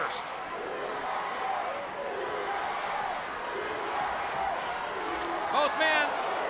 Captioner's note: crowd cheering